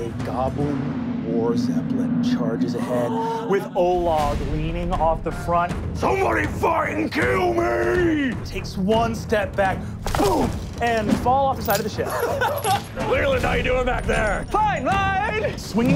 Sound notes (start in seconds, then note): 2.8 gasps; 11.9 laughing